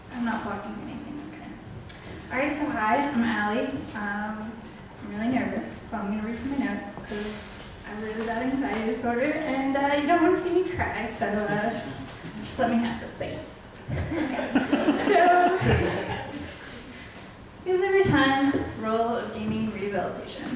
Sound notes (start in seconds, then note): 14.0 audience laughs